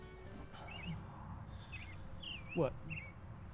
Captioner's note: birds chirping